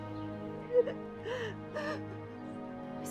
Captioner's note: crying